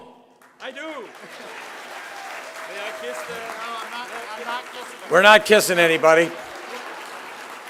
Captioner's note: applause